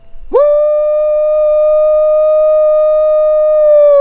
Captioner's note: howling